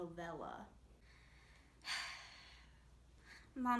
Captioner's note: sigh